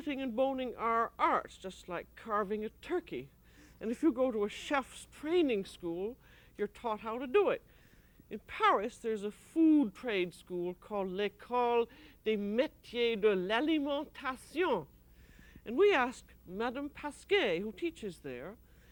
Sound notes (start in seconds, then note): 13.1 speaking french